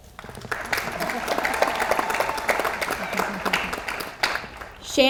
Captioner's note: audience applauds